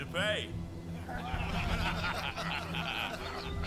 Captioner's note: all laughing